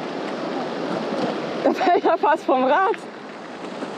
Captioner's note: laughs